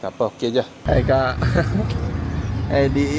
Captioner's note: laugh